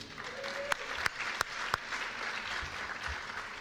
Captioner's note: applause